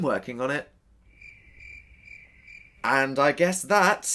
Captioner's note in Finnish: sirkkojen siritystä